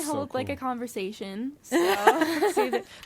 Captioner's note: laughs